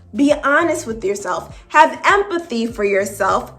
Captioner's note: none